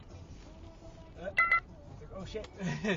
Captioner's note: clip-saved-beep